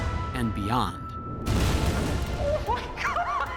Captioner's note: explosions